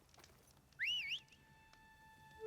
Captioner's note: whistle